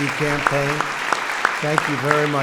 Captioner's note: applause